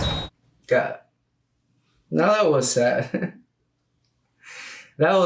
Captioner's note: laughs